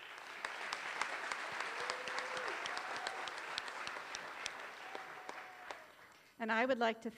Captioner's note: applause